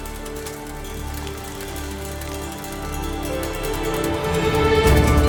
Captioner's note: trash crinkling